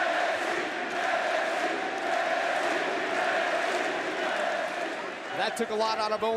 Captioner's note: crowd cheering